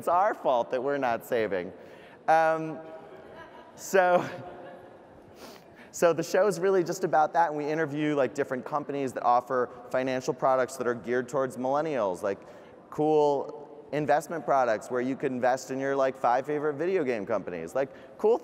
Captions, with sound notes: But it's our fault that we're not saving. (laughing) So the show is really just about that and we interview different companies that offer financial products that are geared towards millennials like cool investment products where you can invest in your five favorite video game companies.